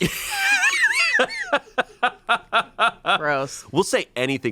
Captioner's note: laughs